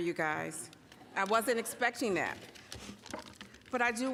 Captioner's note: audience chuckling